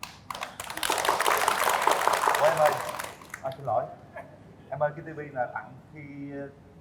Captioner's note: applause